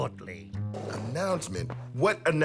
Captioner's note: chair scrapes